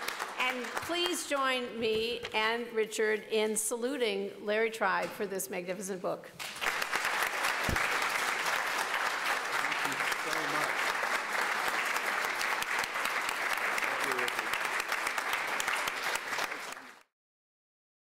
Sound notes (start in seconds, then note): 0.0 applause; 6.7 applause